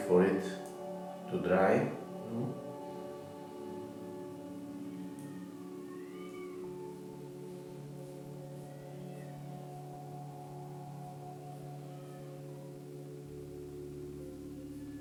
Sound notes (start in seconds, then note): 5.5 distant cats meowing; 11.6 soft electronic music